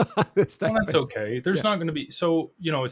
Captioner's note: laughs